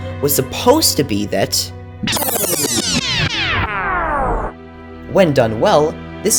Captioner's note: rewinding